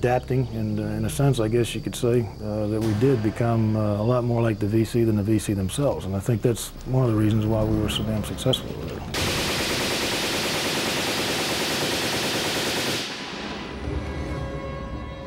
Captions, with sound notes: We kept adapting, and in a sense, I guess you could say, that we did become a lot more like the VC than the VC themselves. I think that was one of the reasons we were so damn successful with it. (gun firing)